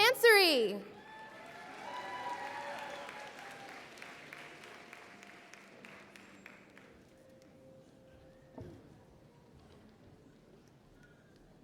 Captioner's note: applause and Cheering